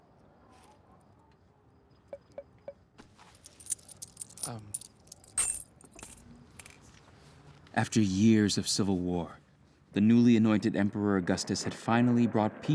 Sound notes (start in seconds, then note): 3.3 coins jingle